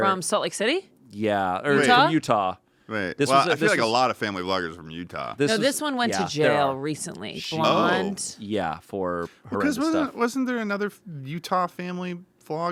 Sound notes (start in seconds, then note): none